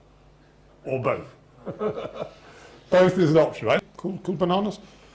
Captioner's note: laughs